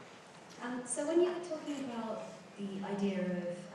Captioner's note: voiceover